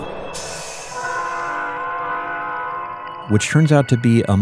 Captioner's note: train horn blasts